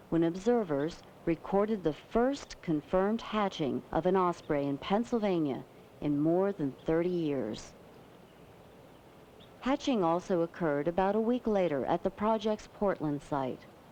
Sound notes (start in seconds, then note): none